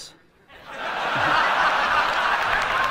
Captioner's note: audience laughter